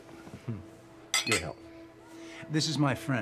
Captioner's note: glasses clinking